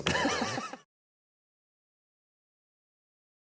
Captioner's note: laughter